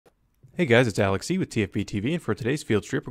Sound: voiceover

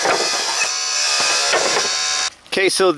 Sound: wooden planks falling

